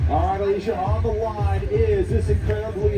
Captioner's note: loudspeaker